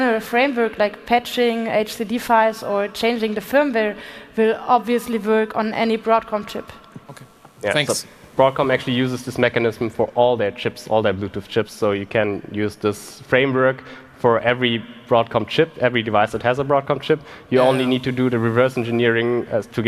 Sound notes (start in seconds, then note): none